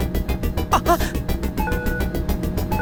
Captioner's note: gasp